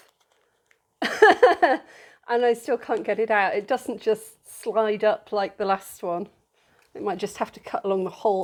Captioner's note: laughing